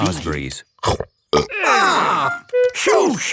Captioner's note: burps